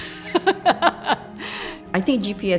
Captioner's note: she laughs